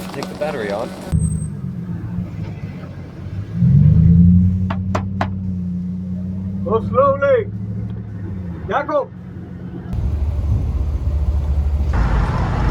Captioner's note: car noise